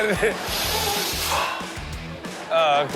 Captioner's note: boy blows